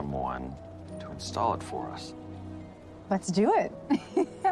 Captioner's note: laughing